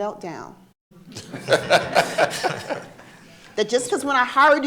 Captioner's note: audience laughing